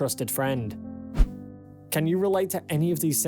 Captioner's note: screen swishes